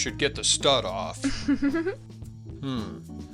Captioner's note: girl giggles